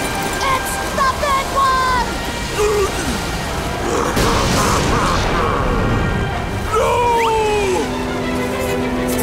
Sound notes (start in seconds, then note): 3.4 laughing